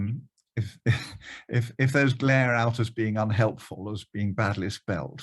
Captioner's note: chuckles